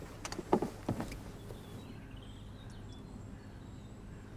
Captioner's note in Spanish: pájaros cantando